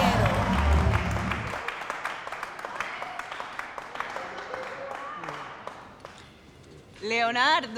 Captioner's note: judges applaud